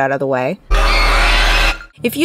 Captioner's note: high pitched screaming